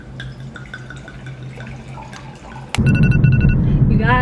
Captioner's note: wine glugging